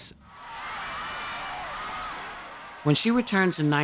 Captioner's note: cheering